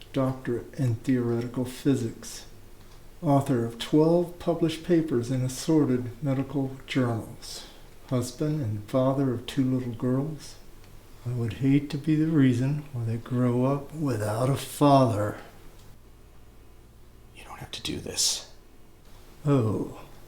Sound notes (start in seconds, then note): none